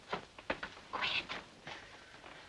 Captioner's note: mother whispers